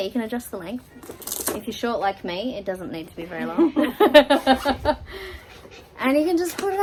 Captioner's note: chuckle